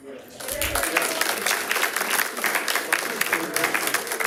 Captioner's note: attendees applauding